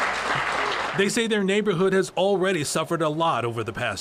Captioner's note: applause